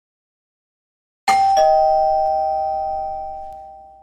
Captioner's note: doorbell rings